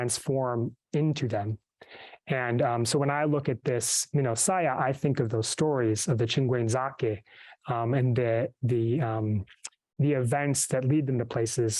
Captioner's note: speaks myaamia